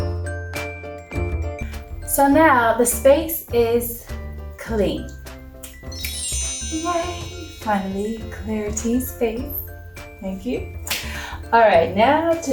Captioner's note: magic sound